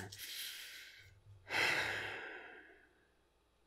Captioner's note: world-weary sighing